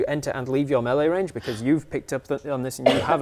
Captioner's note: gasp